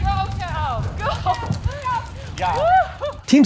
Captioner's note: laughs